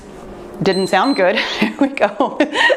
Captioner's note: timer beeps